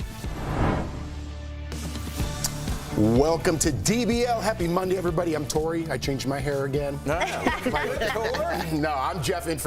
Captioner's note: laughter